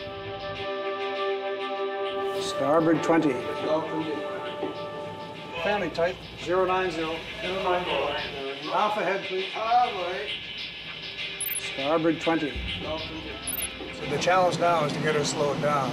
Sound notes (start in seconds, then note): 0.2 suspenseful music; 6.1 overlapping chatter